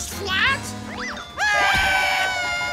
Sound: screaming

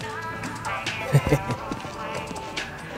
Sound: smug laugh

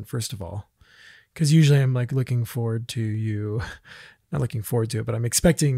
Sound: laughs

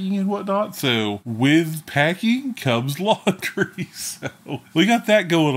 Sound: laughs

